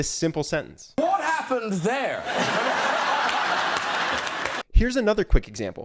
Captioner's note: audience laughing